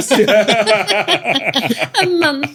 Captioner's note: all laughing